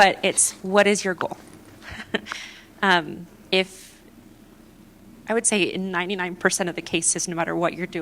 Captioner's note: laughter